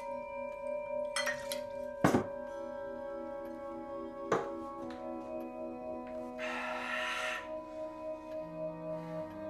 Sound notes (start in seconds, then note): 6.3 exhales